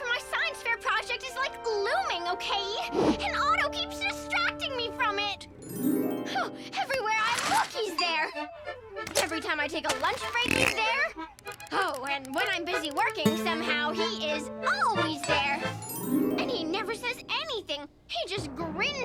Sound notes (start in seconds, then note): 5.6 dreamy harp; 6.9 scoffs